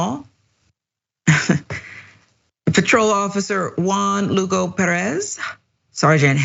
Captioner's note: laugh